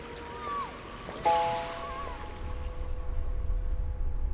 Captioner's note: children chattering